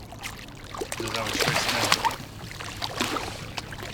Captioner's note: fish splashing